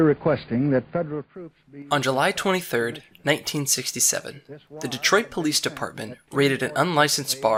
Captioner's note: speech fades out